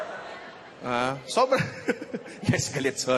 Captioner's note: chuckling; laughs